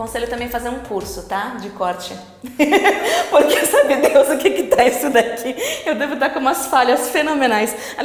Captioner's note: laughs